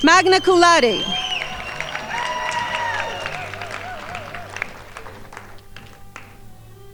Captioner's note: crowd applauding